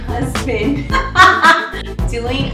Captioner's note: laughing